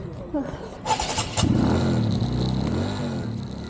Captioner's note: engine starting